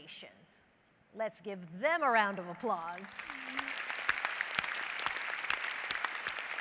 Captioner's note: applause